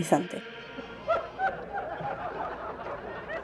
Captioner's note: laughing